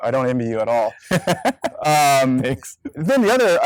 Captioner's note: laughs